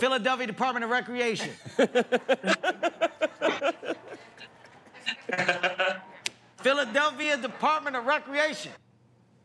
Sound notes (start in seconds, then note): 1.3 laughter